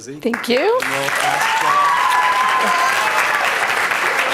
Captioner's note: applause